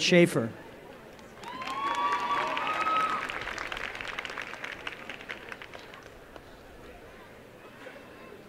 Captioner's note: applause